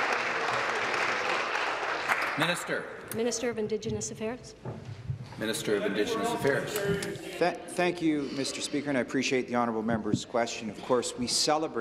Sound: some Applause

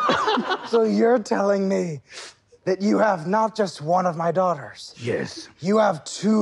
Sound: Sam bursts out laughing; sniffs

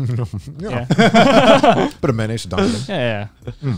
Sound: laughing

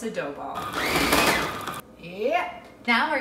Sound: food processor whirring

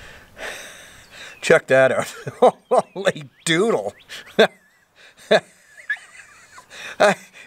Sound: chuckles

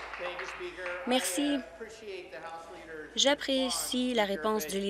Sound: applause

